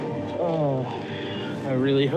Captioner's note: groans